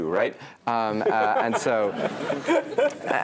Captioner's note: laugh